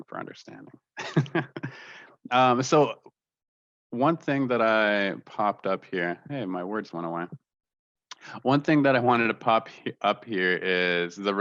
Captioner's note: laughter